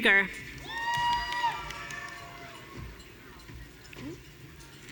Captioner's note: audience cheering